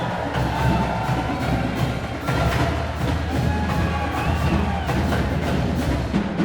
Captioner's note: crowd cheering